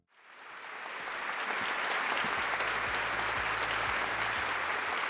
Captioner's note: audience applauding